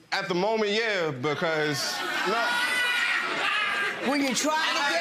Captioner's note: audience laughing